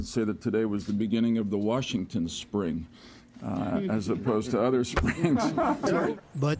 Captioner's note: laughter